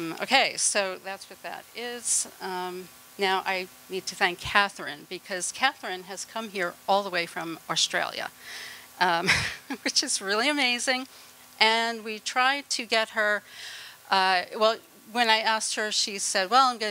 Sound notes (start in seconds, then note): 9.2 laughter